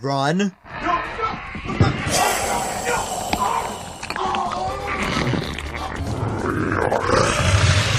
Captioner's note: The cameraman screams as Marvin kills him